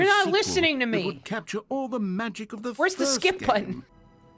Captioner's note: laughing; dramatic strings